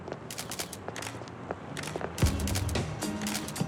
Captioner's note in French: cliquetis d'appareils photo